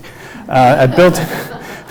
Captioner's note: audience laughs